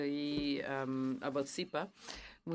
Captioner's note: speaking French